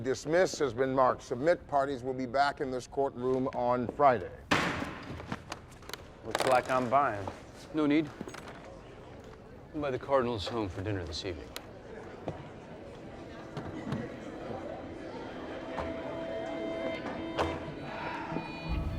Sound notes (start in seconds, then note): 4.1 gavel bangs; 13.7 solemn music